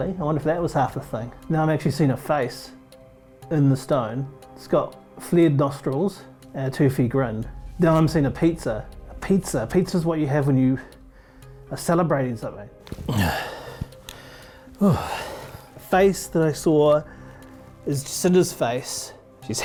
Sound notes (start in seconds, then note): 12.9 presenter breathing deeply